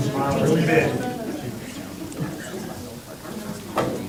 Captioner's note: crowd talking indistinctly